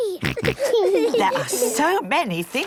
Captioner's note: snorts, giggles